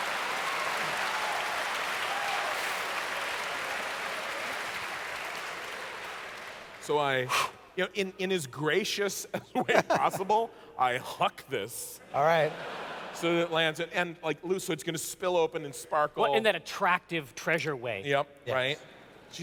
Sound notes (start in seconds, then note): 0.0 audience clapping; 7.2 whew